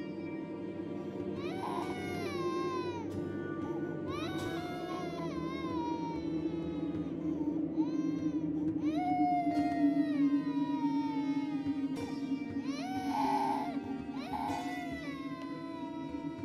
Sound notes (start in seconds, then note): 4.4 sounds of baby crying